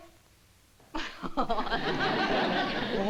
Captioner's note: laughs